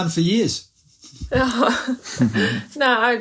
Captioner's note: laughs